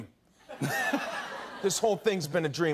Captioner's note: laughter